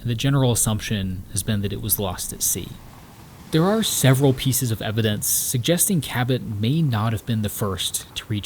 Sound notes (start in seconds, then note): 4.3 water sloshing